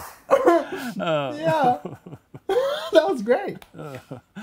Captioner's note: laughing